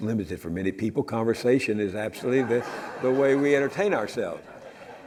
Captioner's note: audience laughs